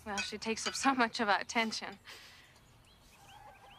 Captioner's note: sniffs